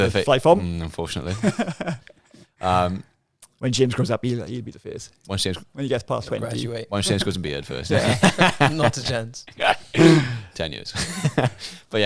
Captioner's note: laughing